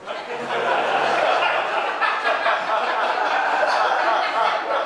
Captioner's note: audience laughing